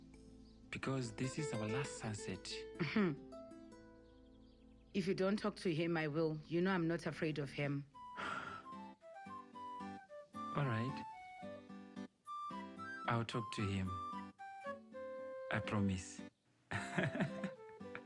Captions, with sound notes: Because this is our last sunset. Hmm, If you don’t talk to him I will. You know I'm not afraid of him. [exhales] Alright, I'll talk to him. I promise. [laughs]